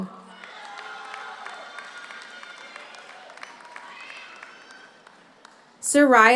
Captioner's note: audience cheers; audience applauds